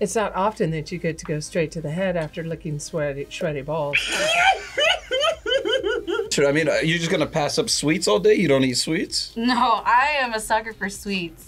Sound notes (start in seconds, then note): 3.9 laughs